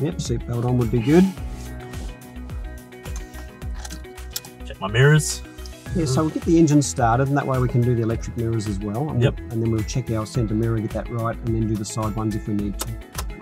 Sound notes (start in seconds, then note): 1.3 belt sliding; 3.1 belt clicking; 12.8 ignition switch clicking